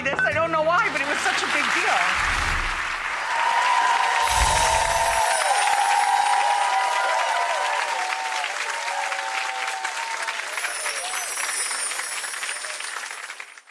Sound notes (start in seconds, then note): 1.9 crowd applauds; 3.4 crowd cheers